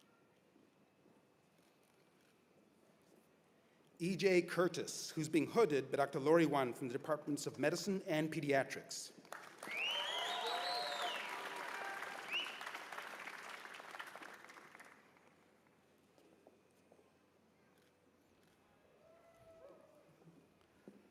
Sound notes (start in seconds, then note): 3.2 cheers and applause